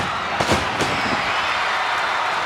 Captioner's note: crowd cheering; body thuds